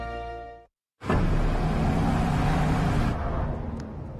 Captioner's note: engine accelerates